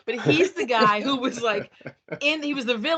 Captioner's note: laughing